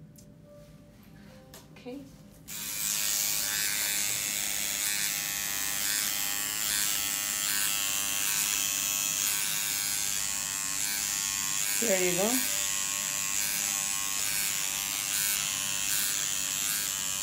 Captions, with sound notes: Okay. (machine buzzing) There you go. (machine buzzing)